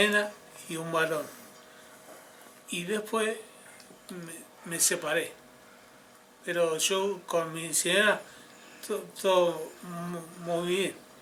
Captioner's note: switching to Spanish